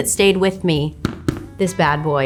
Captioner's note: pointer tapping